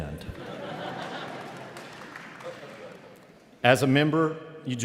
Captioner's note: audience laughing